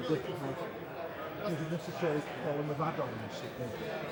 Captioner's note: people Chattering